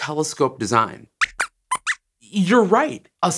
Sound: squeaks squeaks

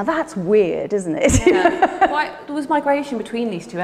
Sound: Ruth laughs

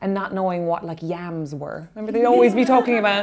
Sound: laughing

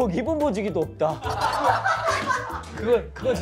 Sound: haha

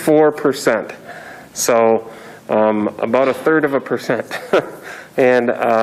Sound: chuckles

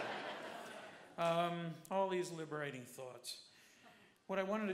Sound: laughter

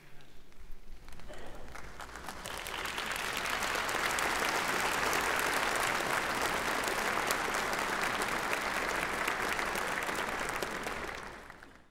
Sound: applause

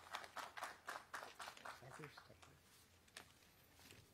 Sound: applause

